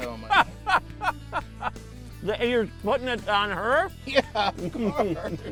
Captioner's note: laughing; laughing